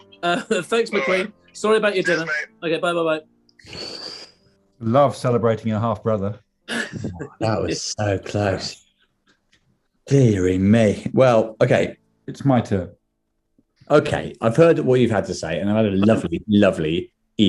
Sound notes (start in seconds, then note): 3.6 exhales; 6.8 chuckling